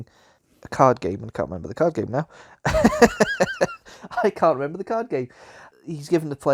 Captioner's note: laughs